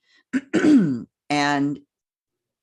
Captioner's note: clears throat